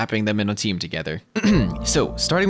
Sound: ahem

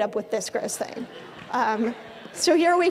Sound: audience laughing

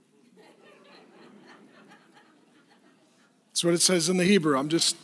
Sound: laughing

